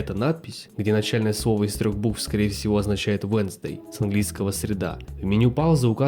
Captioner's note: russian